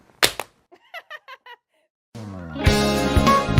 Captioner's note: clap; laughs